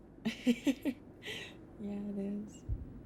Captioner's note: laughs